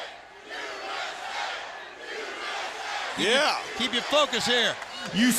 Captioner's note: crowd cheering